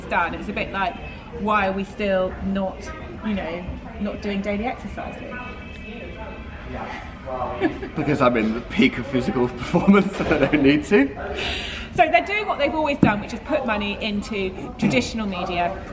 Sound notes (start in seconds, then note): 5.5 background chatter; 7.4 laughs